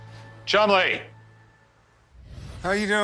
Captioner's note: stammers